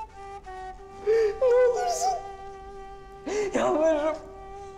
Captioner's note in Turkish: Ağlama Sesleri